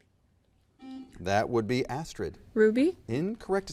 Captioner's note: button beeping